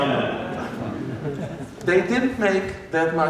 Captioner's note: laughter